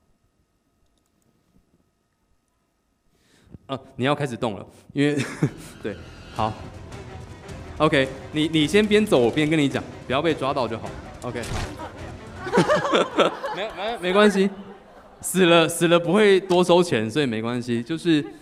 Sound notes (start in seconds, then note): 5.8 game music begins; 11.6 audience laughs; 12.3 game music stops